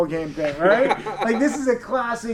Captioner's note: laughing